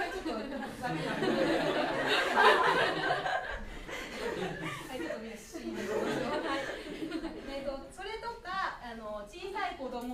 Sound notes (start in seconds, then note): 0.5 speaking foreign language